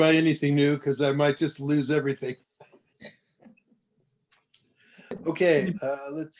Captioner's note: laughter